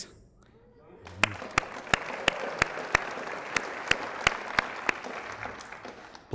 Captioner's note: applause